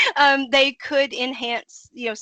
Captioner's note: laughing